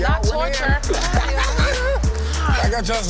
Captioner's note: laughing